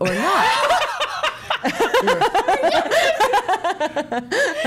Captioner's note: all laughing hysterically